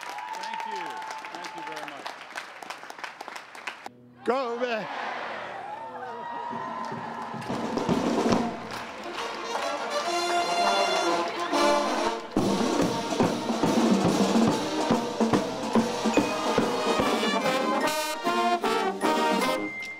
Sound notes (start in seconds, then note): 2.4 applause; 7.9 instruments playing